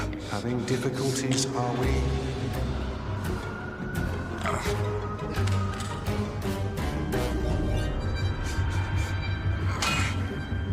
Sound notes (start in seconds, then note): 4.4 grunts; 9.7 grunts